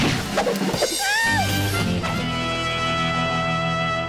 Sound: drum roll; scream

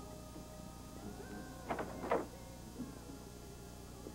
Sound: door opens

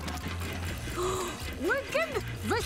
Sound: gasping

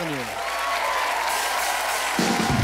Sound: audience cheers

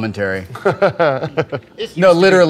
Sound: laughter

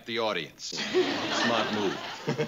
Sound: laughter

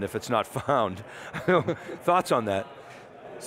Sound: giggles

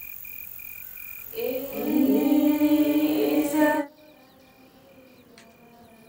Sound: Guest reciting Surah Yasin

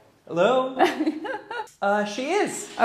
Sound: giggles

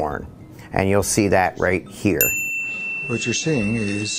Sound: dings

